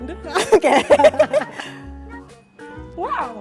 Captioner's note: laughing